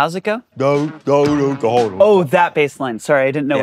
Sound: imitates bass guitar

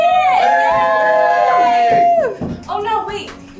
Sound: group cheers

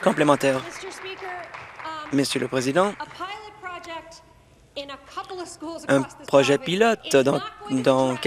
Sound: applause

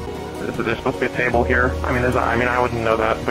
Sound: stutters

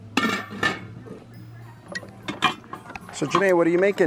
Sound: pots clang

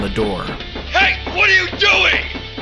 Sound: shouting

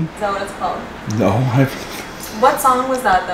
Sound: laughing

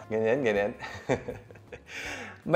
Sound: laughs

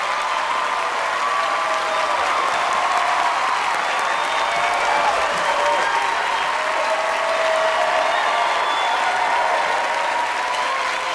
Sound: cheers and applause

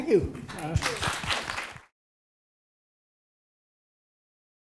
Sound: applause

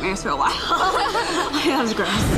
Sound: both laughing

